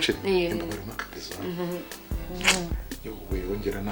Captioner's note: kissing